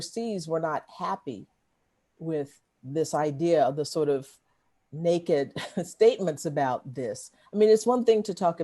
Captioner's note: laughter